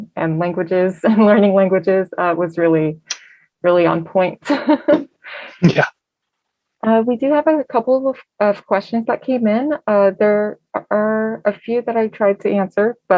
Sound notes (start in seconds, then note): 5.6 chuckles